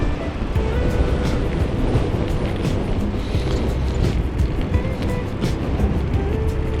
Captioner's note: wind Blowing